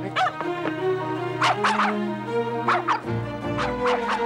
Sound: yapping

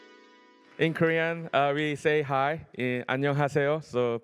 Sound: korean

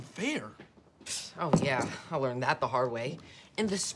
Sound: scoffs

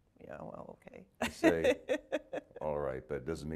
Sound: laughing

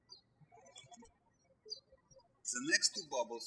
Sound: birds chirping

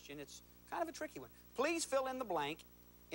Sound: none

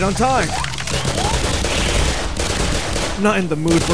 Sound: zap; houndeyes squeal

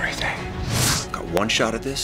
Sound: air whooshing

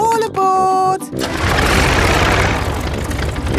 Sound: plane engine starts

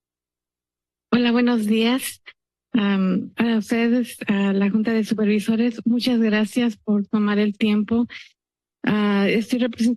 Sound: speaking in Spanish

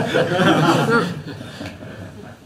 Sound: laughs; laughter

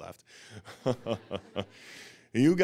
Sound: audience laughing

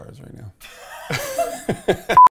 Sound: laughs

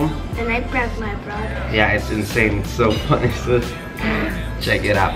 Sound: giggling

